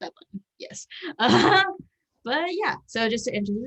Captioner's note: laughs